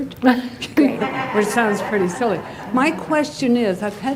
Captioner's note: laughter